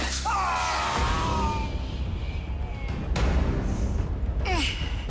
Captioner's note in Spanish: Gritos